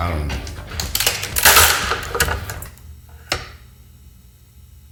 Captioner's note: nuts cracking